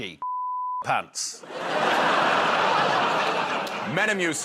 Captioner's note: laughter